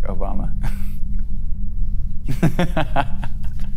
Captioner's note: laughs